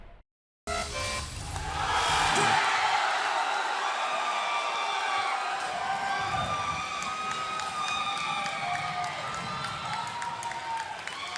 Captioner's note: cheers and applause